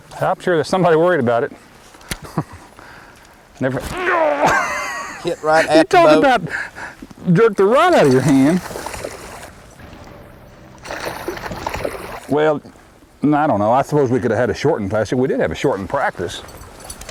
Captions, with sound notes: I am sure somebody worried about it [Laughter] AAAW! he hit right at the boat! Talk about jerk the rod out of your hand! [Splash] [Splashing] Well not.. I do not know, I suppose we could have a shorted Classic. we di have a shorten practice